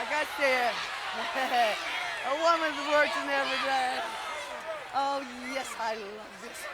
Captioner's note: laugh